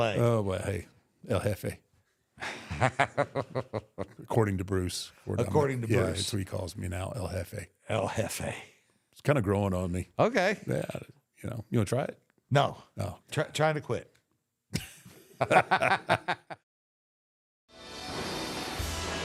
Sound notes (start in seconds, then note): 14.7 both laugh